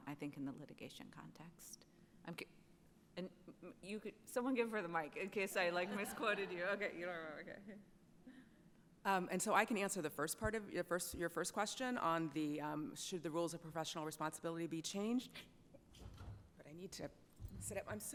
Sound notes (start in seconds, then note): 5.8 attendees laughs